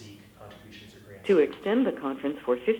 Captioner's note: automated Voice